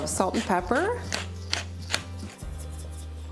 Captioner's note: pepper grinding